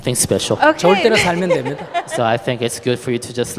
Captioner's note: questioner laughter